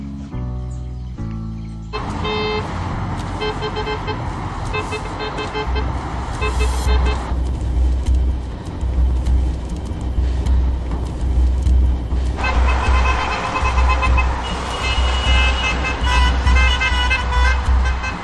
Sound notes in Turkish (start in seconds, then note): 1.9 Korna sesi